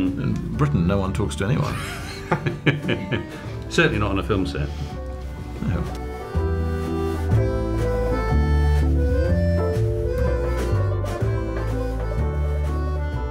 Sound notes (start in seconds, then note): 1.7 laughing; 6.5 dramatic accordion music